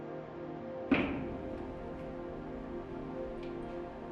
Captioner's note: door opens